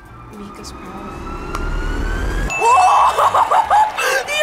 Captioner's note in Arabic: نغمة توقع; قرع الجرس; تضحك